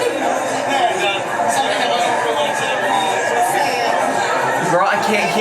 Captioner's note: speaks faintly